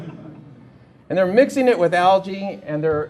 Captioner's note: laughter